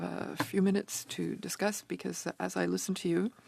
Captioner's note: speaking French